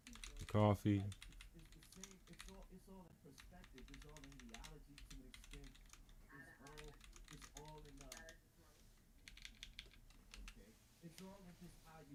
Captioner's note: blank Audio